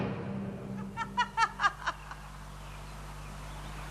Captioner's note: Fair laughs